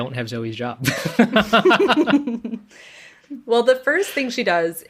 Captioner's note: laughs